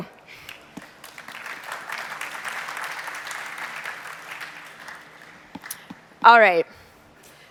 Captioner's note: applause